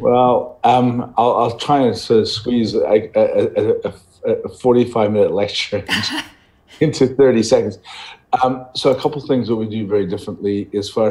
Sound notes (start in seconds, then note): 5.9 laughs